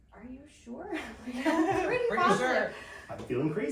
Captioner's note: laughing